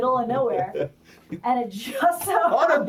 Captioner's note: laughs